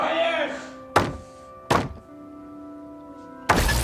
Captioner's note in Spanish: Golpes